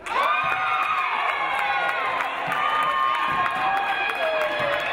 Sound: audience cheering

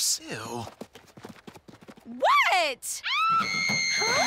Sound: mandy screams

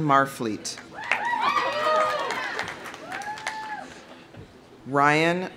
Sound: audience applauding; audience cheering

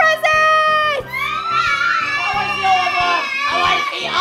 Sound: cheering

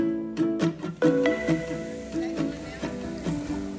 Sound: people chattering around

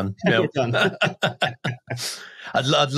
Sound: they laugh

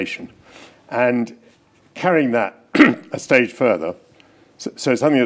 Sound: clears throat

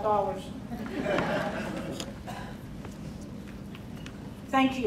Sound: crowd laughing

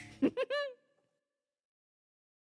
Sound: giggles

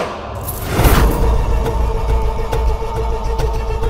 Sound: banging

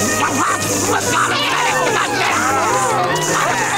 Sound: customers moaning

